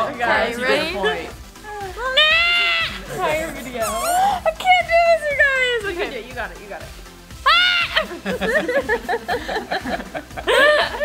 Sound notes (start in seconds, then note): 7.4 screaming; 7.4 laughing